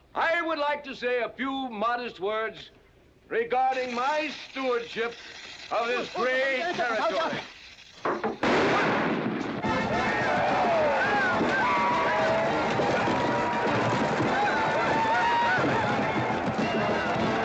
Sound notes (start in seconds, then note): 7.3 fuse hissing; 8.4 loud bang; 9.5 western rodeo music; 9.6 crowd cheering